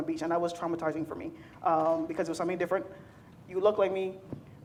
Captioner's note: none